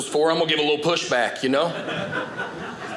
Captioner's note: audience laughing